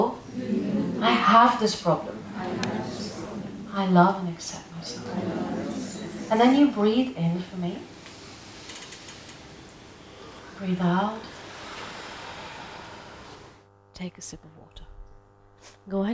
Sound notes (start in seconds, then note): 7.4 people inhaling; 11.7 people exhaling